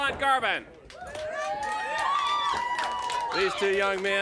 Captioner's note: crowd cheering